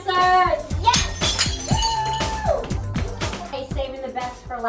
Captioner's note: glass shattering; claps; cheers